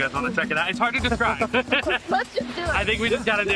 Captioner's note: laughing